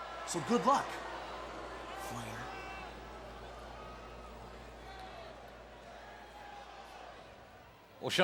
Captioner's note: applause